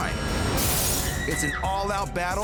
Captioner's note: glass breaking; person screams